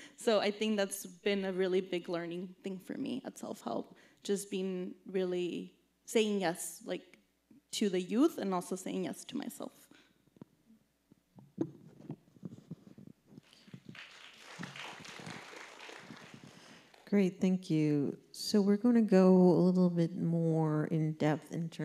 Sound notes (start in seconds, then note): 13.4 audience clapping